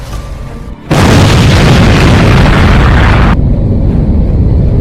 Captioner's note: rocket banging